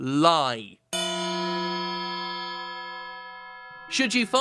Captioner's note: bell ringing